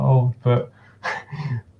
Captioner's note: chuckles